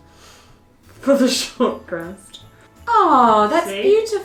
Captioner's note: laughing